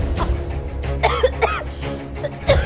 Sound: coughing

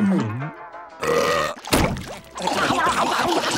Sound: burping

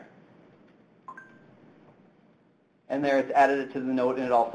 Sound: tablet beeps

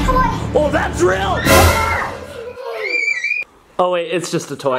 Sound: jump scare sound; screaming

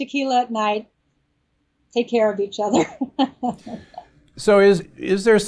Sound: laughs

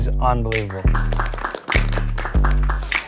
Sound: applause

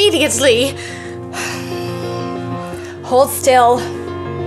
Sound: sighs

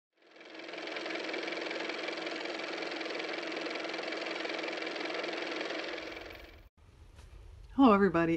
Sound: car motor

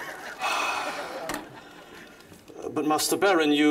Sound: sighs

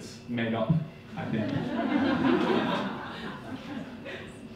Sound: audience laughing

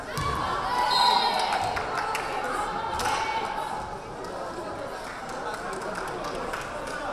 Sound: crowd cheering; whistle blaring

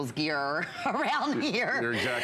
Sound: laughter

